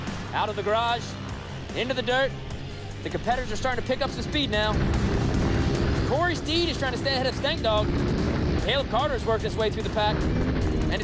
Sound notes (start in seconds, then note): 4.8 motors rumbling